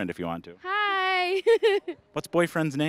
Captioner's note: laughing